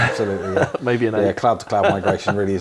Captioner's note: laughter